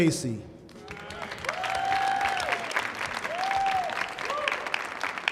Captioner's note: audience applauding